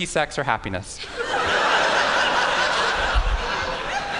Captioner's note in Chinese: 笑聲